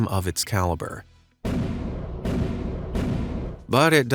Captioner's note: heavy artillery booming